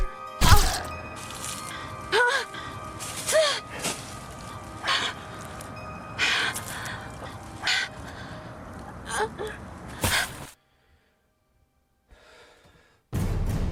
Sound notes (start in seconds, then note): 2.1 Mandy gasps; 10.0 crunches on leaves as she lands